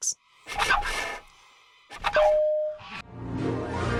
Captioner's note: sounds of blowing air, imitating a Raptor call